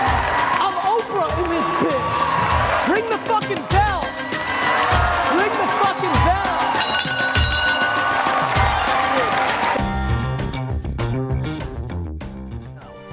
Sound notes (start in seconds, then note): 2.1 cheering; 6.7 bell ringing; 7.8 cheering; 10.0 upbeat music